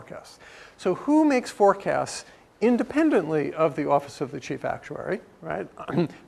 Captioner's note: cough